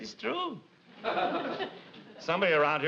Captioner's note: audience laughs